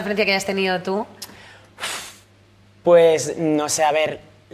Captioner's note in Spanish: resopla